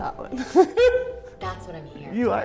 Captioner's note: laughing